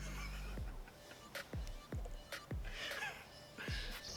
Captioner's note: laughing